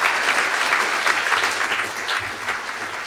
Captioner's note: applause